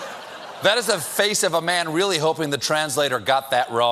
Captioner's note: laughter